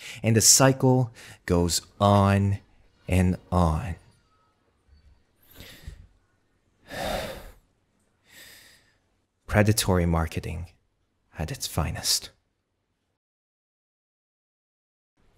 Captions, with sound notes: and the cycle goes on and on. (deep inhale) (sigh) Predatory marketing at its finest.